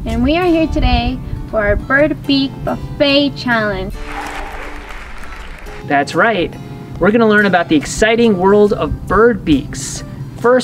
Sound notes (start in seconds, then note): 3.9 theater applause